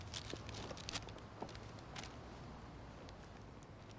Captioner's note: paper rustling